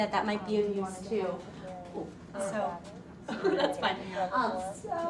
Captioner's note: laughing